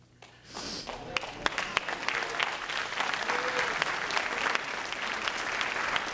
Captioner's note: audience claps encouragingly